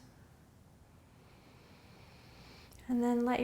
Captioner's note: inhaling